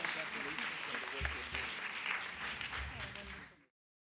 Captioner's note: attendees clapping